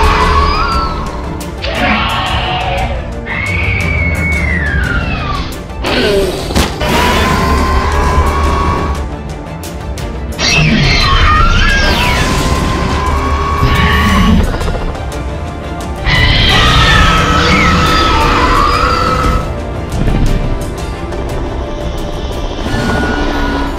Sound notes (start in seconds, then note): 0.0 Hermes Screeching; 5.9 Hermes and Scorpius Rex fighting sounds